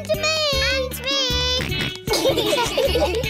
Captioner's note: george snorts; laughter